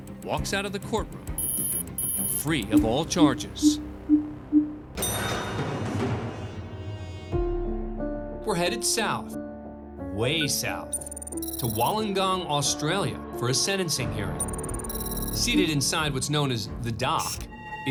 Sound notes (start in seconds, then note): 3.2 beeping; 5.1 audio logo